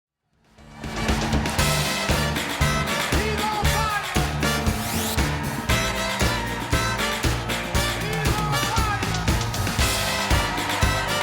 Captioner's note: cheers and applause